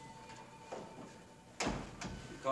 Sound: door closes

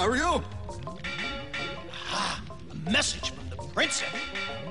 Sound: tapping morse code

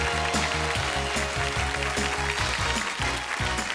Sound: applause

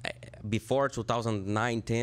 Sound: microphone noise

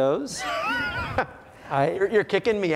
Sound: laughs

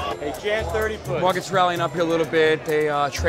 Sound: none

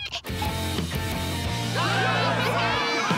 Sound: cheering

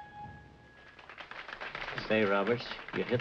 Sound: piano playing stops; applause

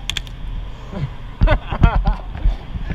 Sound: laughing

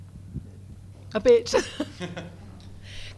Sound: laughs

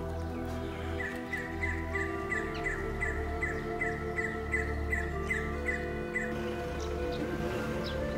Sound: birds Chirping

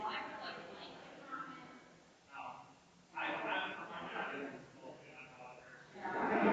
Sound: people chattering distantly continues

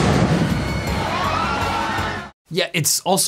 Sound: gun bangs; crowd screams

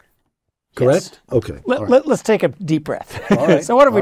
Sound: laugh

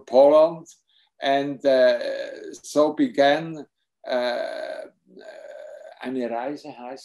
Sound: speaks foreign language

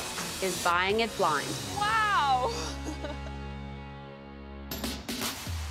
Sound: laughs; upbeat music

